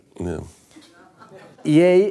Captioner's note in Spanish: risas